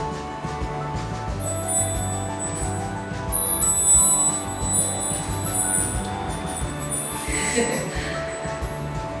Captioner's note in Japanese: オーナメントの音